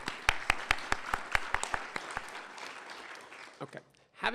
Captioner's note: applause